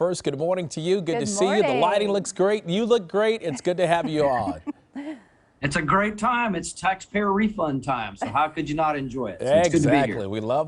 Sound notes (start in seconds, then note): 8.2 laughter